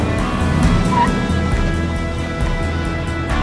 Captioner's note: tire screeching